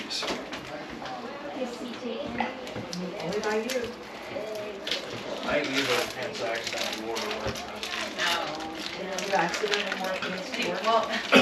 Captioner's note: crowd noise